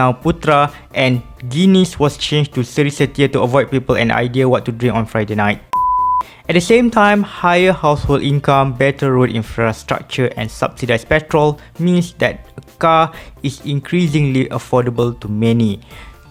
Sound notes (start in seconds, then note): 5.7 beep